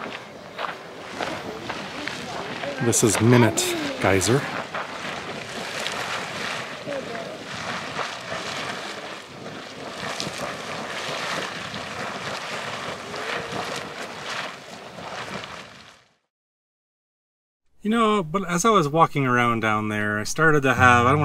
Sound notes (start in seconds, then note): 8.6 water bubbling